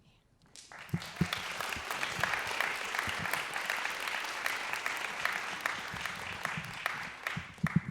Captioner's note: applause